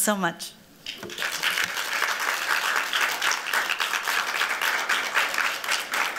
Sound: applause

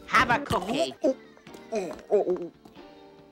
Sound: choking

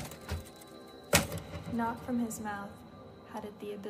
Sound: girl reading

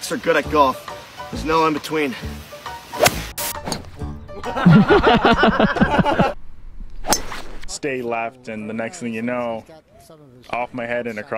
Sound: foreign language 00:10:23

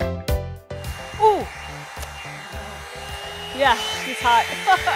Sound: blow dryer humming; chuckles

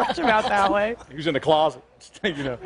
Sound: laughter

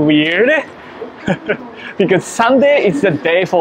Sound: chuckles

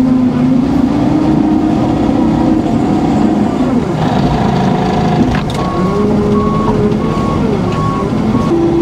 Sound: engine revving

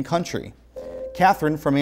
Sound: beeping

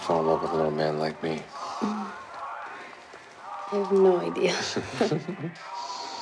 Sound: sighs; both laugh

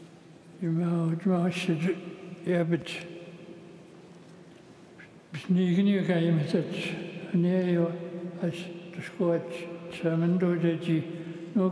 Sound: speaking Alternate Language

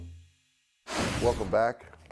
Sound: whooshing

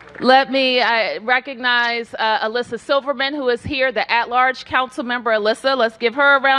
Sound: cheers and applause

